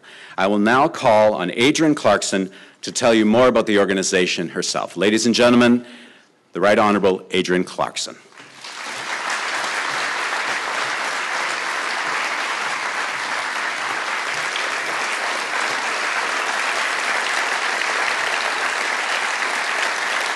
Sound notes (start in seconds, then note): 8.3 applause